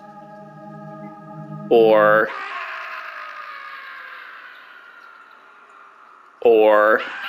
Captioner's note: soft instrumental music; recording of a person screaming and it slowly tapering off; recording of a person screaming and the scream echoing